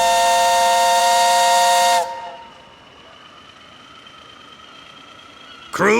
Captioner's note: whistling